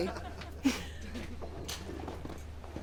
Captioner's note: chuckles